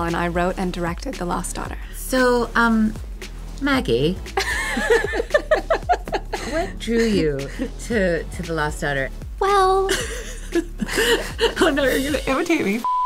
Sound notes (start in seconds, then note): 4.4 laughter; 9.1 higher voice; 9.9 laughs